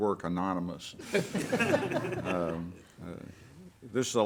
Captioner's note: everyone laughs